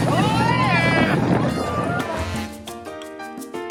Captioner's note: yelling